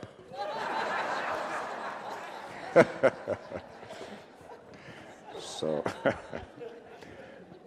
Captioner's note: audience and Reverend laughing